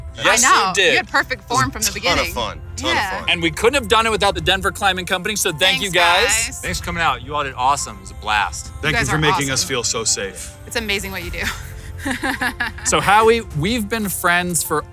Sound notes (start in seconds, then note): 12.0 laughs